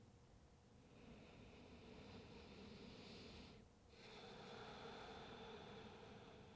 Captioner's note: breathes deeply